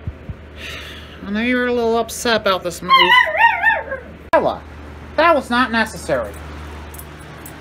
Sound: Ella barks and howls

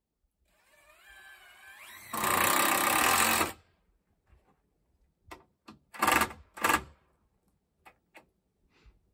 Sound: electric drill sound

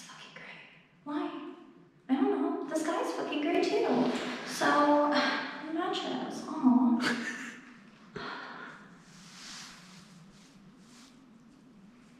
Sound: laughing

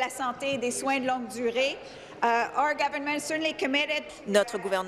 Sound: speaking in French

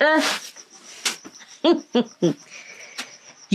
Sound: chuckles

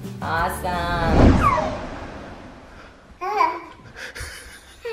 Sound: swooshing; dad laughing

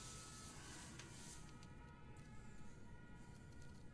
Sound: faint sirens

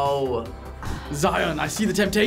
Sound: sighs

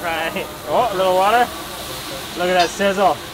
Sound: food sizzling

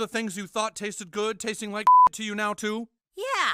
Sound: beep

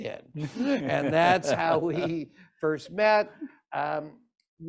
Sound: laughter

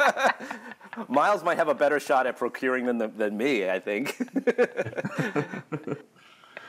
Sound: laughs; laughs

